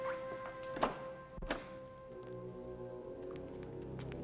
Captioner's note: ominous music; door opens; ominous music